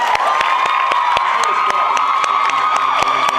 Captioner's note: cheers, applauds